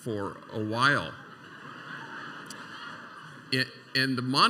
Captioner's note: laughter